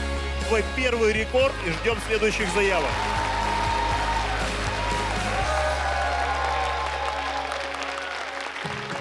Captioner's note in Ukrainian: оплески